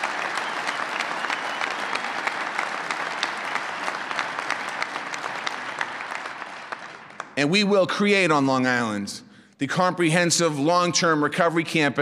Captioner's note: applause